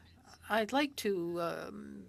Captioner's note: speaking French